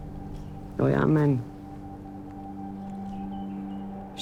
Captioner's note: speaking Hebrew